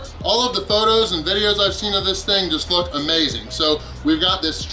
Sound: none

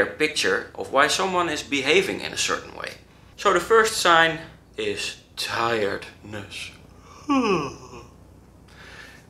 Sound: yawn

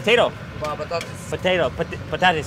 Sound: speaking in foreign language

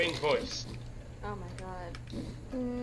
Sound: muttering

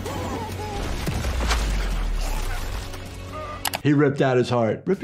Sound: blow thuds

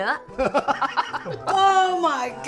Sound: speaking foreign language; laughs

